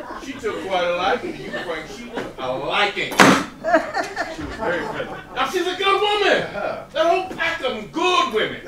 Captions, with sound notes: she took quite a liking to you, Frank. She took a liking. [Slams] >> She was very friendly. >> Now she’s a good woman! That whole pack of them—good women.